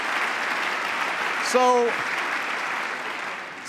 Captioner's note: applause